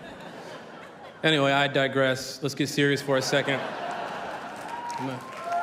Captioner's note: laughter